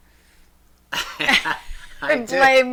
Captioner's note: laughs